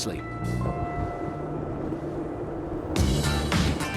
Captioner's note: engine sounds; upbeat music